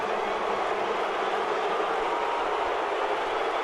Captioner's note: booing